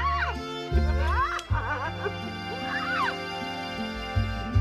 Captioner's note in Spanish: Risas